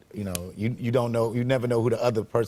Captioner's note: none